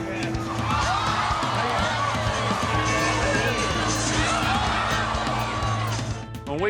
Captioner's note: crowd gasps